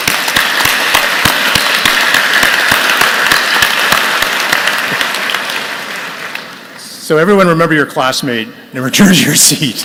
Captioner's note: applause